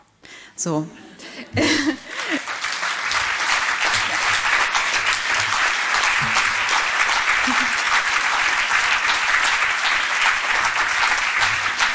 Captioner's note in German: applaus